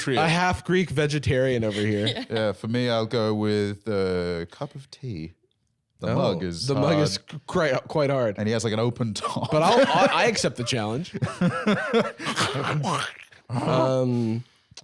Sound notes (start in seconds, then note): 12.2 both chomping